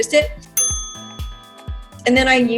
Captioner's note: bell dings